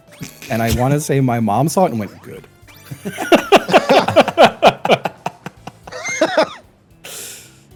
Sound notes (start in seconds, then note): 0.1 cracks up; 3.0 all laugh; 7.0 wheeze